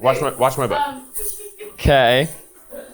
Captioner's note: crew member chuckling; crew members chuckling